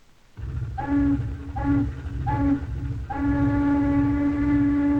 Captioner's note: horn blowing